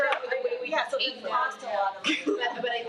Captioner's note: attendees chattering